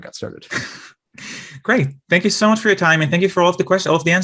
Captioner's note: laughs